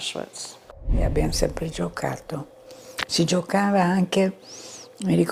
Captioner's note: speaking in foreign language